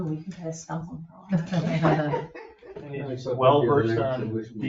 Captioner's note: group laughs